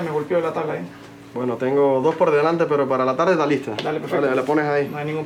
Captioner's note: clerk speaking Spanish